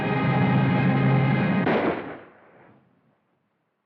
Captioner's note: gunshot